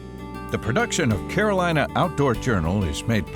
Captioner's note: voiceover